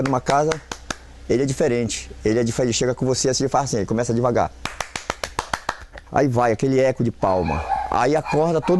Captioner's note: clapping